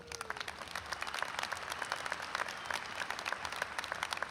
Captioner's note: audience applauds